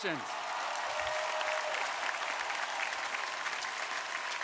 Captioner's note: crowd applauding